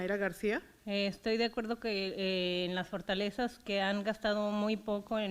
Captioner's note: foreign language